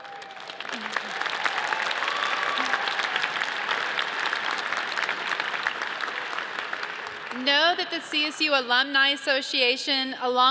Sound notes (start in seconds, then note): 0.0 audience cheers and applauds